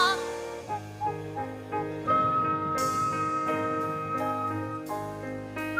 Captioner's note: whistling